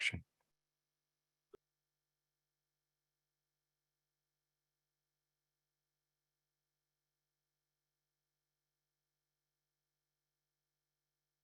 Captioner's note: silence